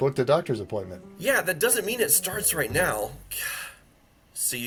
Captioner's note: exhales